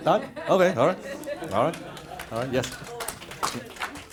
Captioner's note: laughter